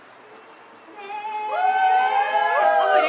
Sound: cheering

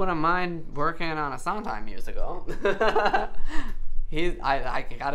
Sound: laughs

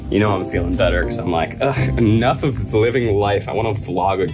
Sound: groans

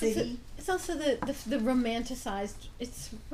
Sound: voiceover

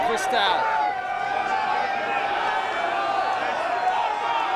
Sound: cheering

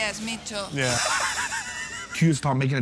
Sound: laughing

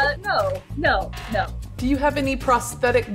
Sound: buzzer

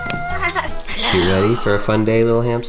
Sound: whisper

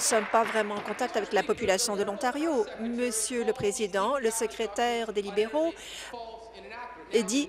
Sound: applause

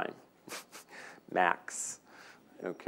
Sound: laughing

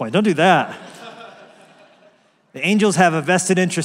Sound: laugh

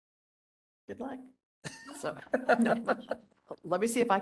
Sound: laughing

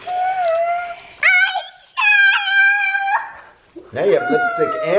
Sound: gasp

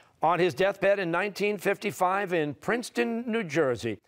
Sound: none

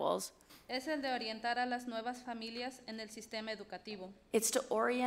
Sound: speaks foreign language

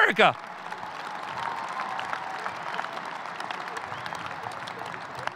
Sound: audience cheering

